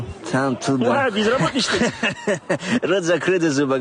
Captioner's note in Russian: Смеётся